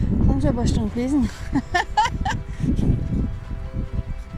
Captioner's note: laughter; heroic music